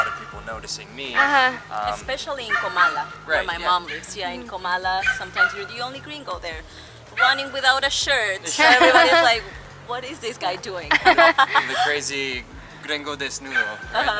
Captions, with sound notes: people noticing me. Especially in Comala! Where my mom lives. In Comala, sometimes you're the only gringo there. Running without a shirt. [Laughter] Everybody's like "What is this guy doing?" [Laughter] The crazy naked gringo.